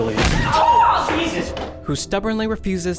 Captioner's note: fist thudding